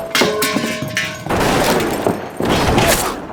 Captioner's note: gunshots